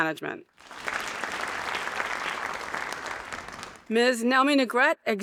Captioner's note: audience applauding